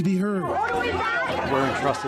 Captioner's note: protestors clamoring